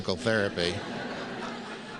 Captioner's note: laughs